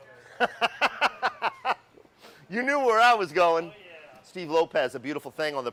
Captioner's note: laughs